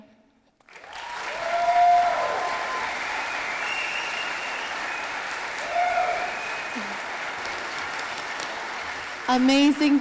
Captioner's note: audience applauding